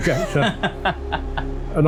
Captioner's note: laughs